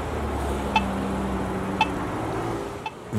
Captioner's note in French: bips rythmés